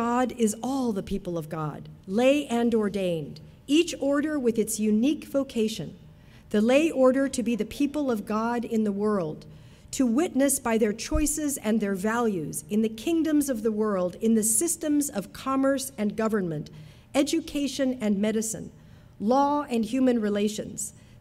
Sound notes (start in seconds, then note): none